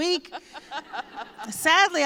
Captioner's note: laughter